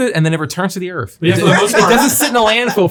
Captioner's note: all laughing